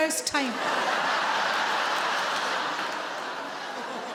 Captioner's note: audience laughs